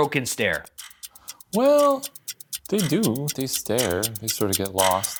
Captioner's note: clock ticking